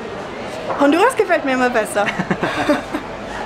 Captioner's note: laughs